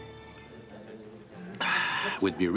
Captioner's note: people chattering